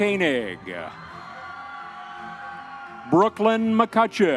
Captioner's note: audience members cheering